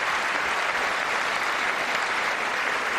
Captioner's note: applause